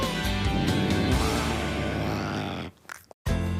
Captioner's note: growls